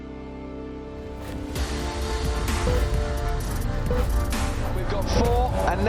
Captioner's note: beeping of racing lights play over synthy beat